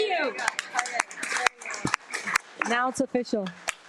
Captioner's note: participants applauding